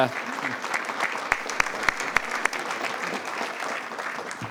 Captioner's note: attendees applauding